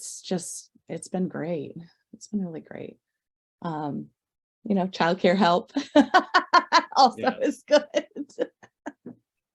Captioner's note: laughs